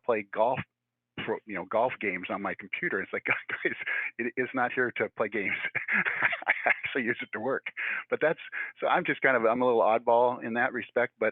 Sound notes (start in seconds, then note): 2.8 laughing